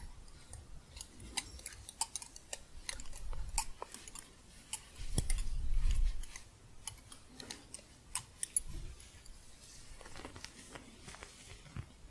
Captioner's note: gentle jingling, then soft scratching